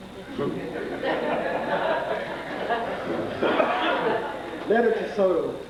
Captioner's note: laughter